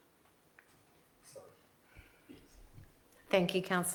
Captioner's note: speaks faintly